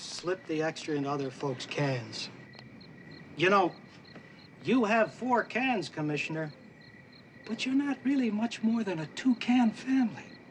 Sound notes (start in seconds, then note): none